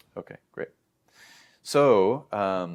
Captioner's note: inhales